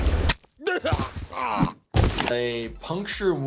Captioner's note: flesh squelches; person groans